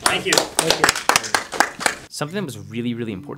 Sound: applause

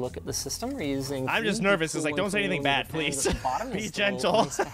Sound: laughter

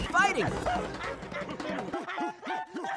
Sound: screaming

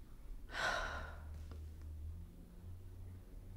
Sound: deep sigh

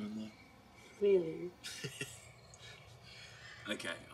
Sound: Max laughs

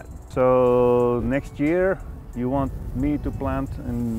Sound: none

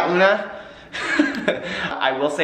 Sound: laughs

